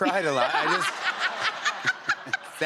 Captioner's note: laughter